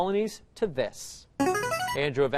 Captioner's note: chiming